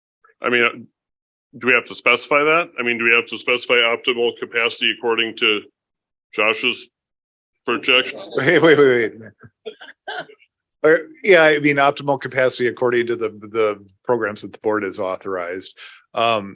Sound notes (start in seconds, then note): 7.8 members chuckling